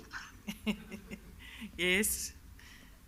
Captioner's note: laughs